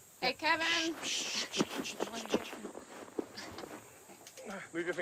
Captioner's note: Kevin hissing